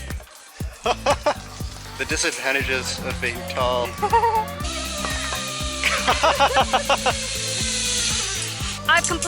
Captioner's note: laughter